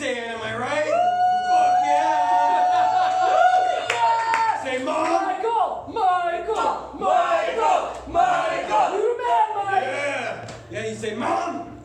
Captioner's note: audience cheers & chants michael's name